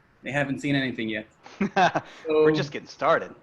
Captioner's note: laughing